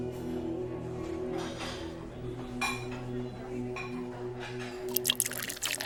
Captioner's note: restaurant noise